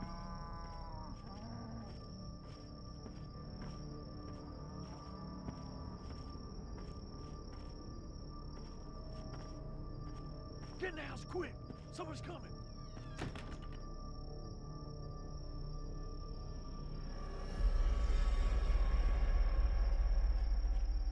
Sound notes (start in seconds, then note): 0.2 tense music; 6.2 slow footsteps; 12.9 door closes; 14.7 tense music